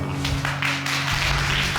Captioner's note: applause